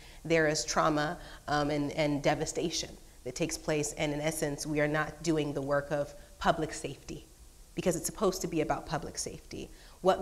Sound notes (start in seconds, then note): none